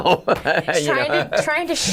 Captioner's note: laughing